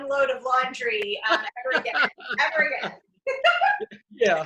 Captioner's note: laughs